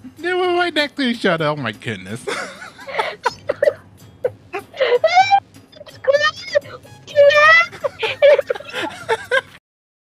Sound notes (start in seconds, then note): 2.2 chuckles; 6.9 wailing